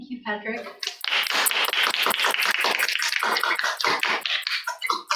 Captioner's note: applause